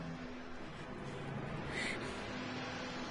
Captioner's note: strained breathing